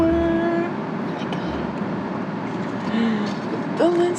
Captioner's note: whisper